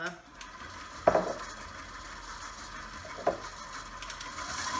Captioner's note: mixer buzzing